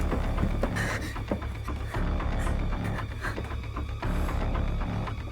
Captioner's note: footsteps thudding; Tina gasping